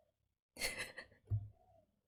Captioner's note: laughs